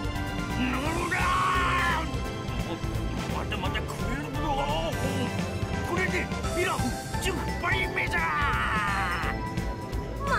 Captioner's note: grunt of self-encouragement